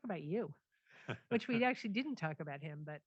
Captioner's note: laughs